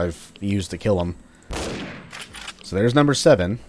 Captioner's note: bam